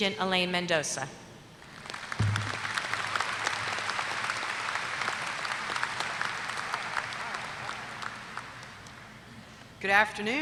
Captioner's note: applause